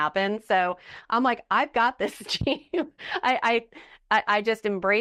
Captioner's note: chuckling